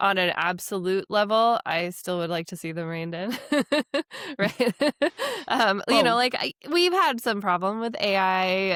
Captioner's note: laughs